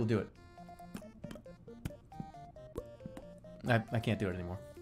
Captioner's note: making mouth noises